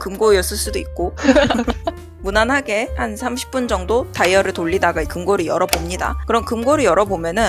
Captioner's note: laughs